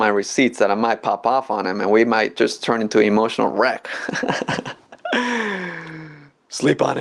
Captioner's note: laughs